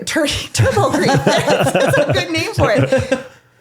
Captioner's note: laughing